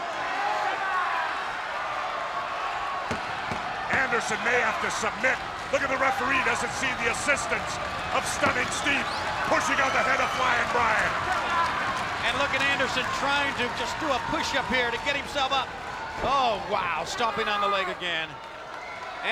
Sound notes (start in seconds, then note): 0.1 spectators cheering and applauding; 3.1 palm thudding